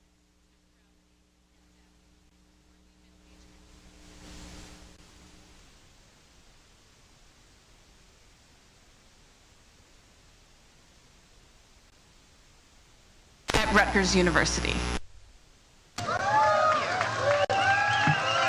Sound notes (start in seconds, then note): 13.5 microphone feedback sounds; 15.9 crowd cheers